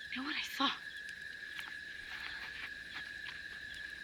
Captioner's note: crickets Chirping Continues